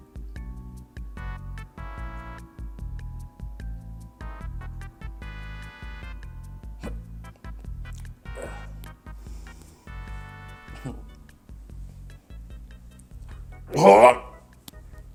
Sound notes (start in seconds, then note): 8.3 sighs; 13.8 retching sound